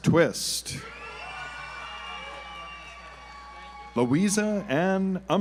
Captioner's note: audience applauds